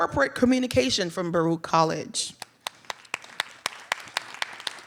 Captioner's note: audience clapping; clapping